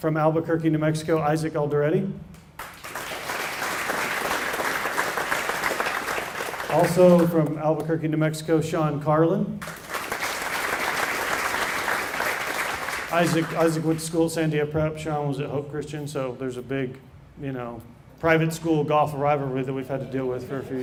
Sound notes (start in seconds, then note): 5.6 applause